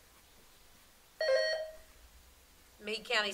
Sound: buzzer sounding

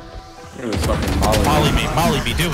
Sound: guns firing

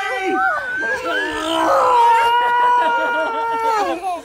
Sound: all screaming

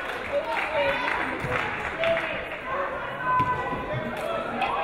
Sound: audience applauding

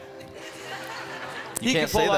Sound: crowd laughing

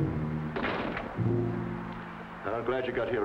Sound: suspenseful music; door clanks

